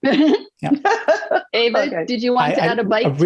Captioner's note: laughs